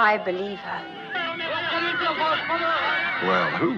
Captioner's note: shouting